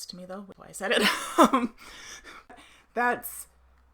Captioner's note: laughs